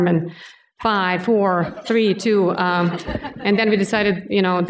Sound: laughter

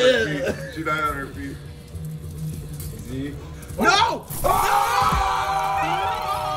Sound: laugh

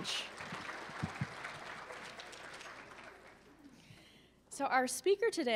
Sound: applause

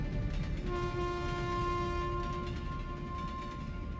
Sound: a train horn echoes in the distance

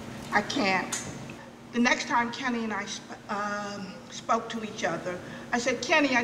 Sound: none

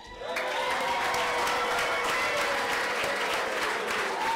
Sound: clapping

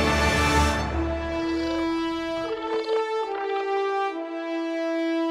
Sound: chirping

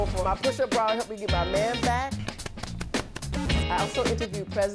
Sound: patting

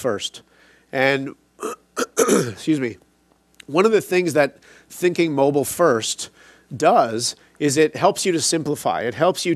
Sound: coughs

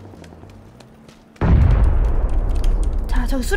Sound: boom

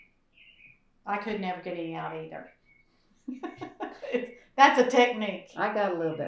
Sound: laughs

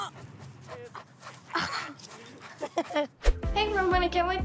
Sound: chuckles

